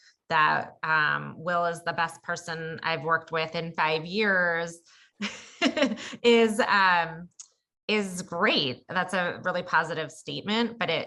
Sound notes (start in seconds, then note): 5.9 laugh